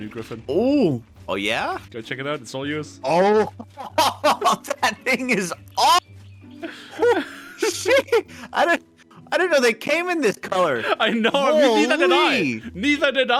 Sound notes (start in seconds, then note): 3.0 excited noises; 6.6 laughs